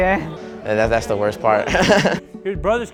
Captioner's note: laughing